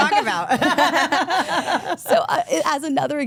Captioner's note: group laughs